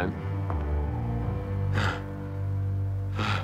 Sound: panting

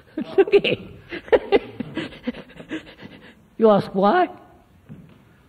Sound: laughs

